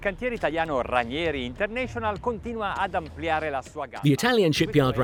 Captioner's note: speaking in Italian